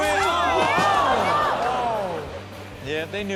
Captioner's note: shouting